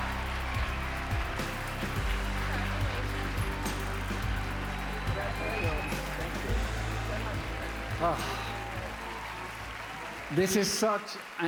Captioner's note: cheers and applause